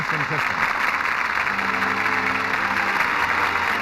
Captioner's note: applause